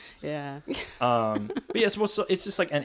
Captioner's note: laughs